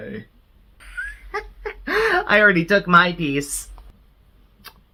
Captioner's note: chuckles